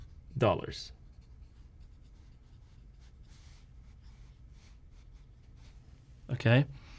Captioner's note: writing